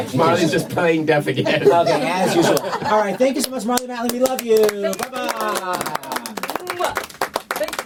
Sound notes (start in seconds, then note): 1.3 laughter; 7.4 clapping